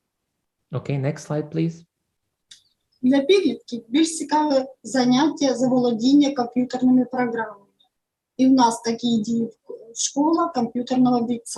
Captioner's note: foreign Language